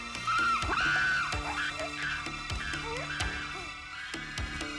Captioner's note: animals squealing